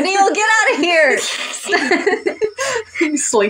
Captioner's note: laugh; hiss; chuckle